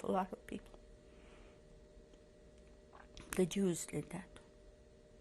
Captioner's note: pauses for 3 seconds